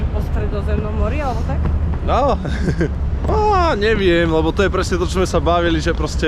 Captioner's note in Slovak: smiech